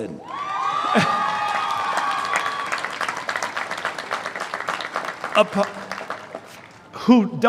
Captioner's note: cheering